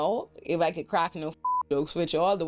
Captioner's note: beep